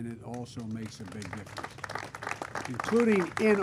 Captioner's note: applause